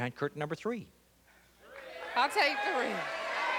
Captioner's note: chatter